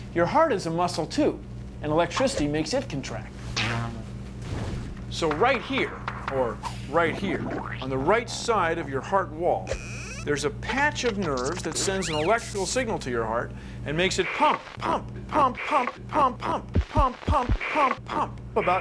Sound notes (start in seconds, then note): 3.5 boing!